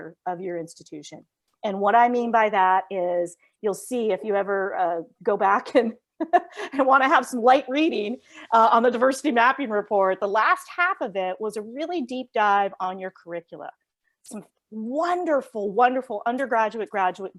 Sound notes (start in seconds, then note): 5.9 laughs